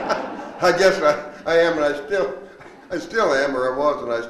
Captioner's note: laughs; all laughing